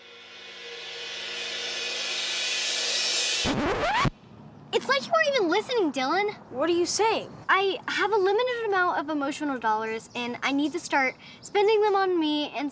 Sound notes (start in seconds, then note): 0.0 intense music building; 3.4 record scratching